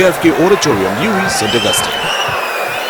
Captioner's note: wild applause and cheering for 22 seconds